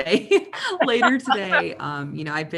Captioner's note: chuckles